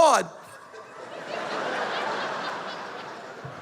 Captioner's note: laughter